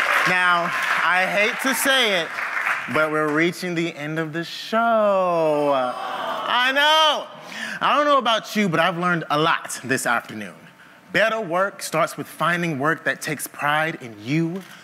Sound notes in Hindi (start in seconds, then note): 5.7 हूट